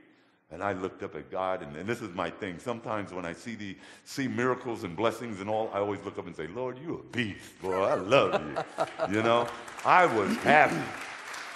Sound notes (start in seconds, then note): 7.6 laughing; 10.4 audience applause